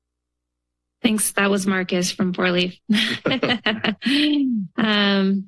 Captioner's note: laughs